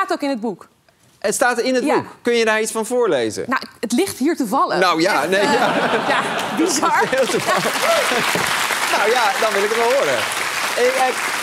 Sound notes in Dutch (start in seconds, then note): 5.2 gelach; 10.2 applaus